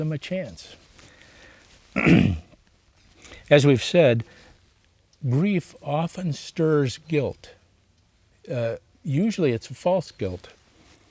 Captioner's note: clears throat